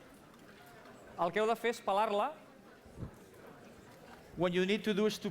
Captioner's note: non-english speech